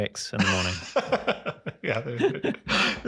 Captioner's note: laugh